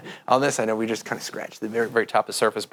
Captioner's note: laughs